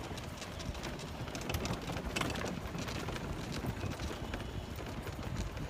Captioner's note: none